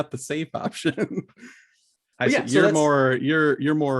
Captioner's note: laughs